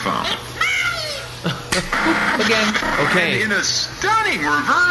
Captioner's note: snaps boomingly